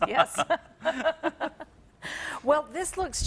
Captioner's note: laughter